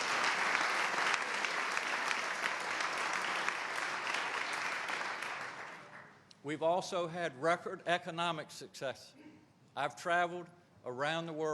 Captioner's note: applause